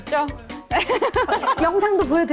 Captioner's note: haha